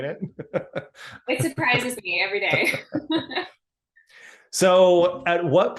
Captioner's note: both laughing